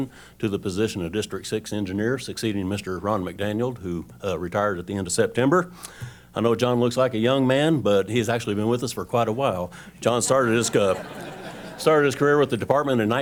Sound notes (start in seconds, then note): 10.2 laughter